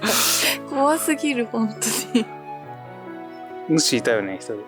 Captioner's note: laughs